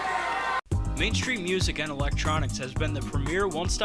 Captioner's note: voiceover